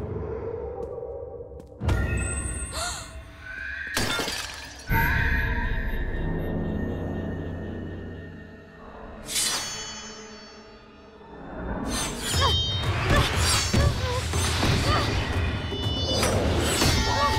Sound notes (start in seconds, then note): 2.3 gasping; 4.0 shattering; 11.9 grunting